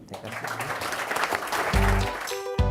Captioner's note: applause